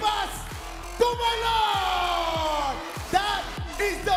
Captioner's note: audience cheering